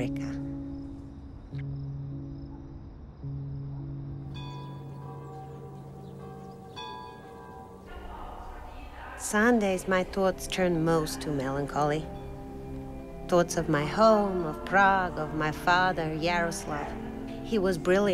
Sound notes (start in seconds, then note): 5.3 church bells toll